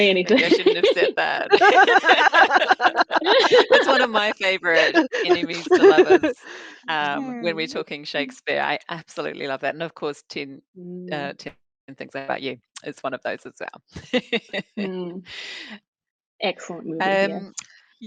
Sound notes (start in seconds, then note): 1.3 all laughing; 14.0 laughs